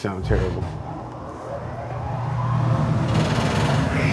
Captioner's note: exhaust vent hums; exhaust vent rattles